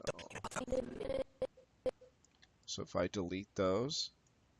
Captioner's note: audio skipping